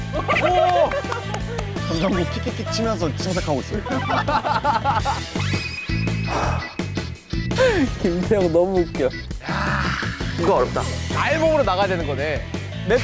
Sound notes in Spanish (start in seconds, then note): 7.5 Suspiro